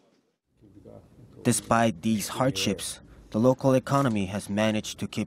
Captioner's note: Korean